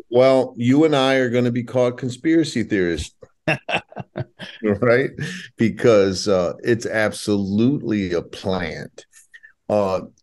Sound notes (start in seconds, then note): 3.4 laughing